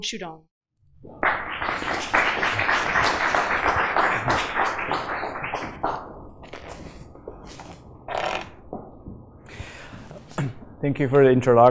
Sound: applause

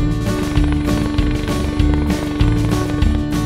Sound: helicopter blade sounds

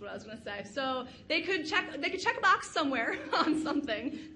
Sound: laughs

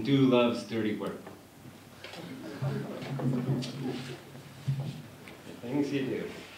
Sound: laughter

